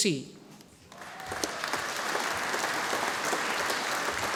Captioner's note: audience applauding